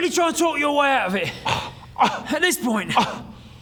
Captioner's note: offended scoffs